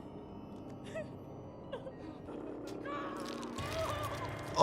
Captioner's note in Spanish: música siniestra; Jess sollozando